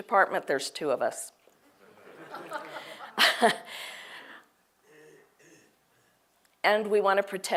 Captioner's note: laugh